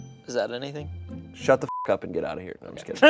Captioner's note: beep